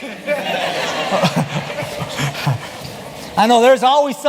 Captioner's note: laughter